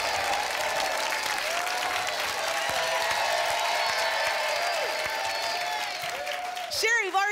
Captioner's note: applause and cheering cont